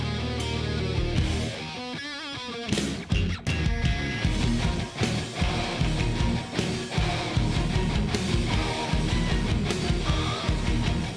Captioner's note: crowd cheering